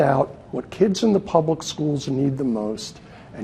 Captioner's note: none